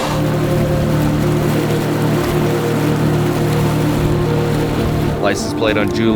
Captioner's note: light intense music; water splashing